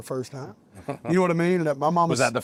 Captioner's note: laugh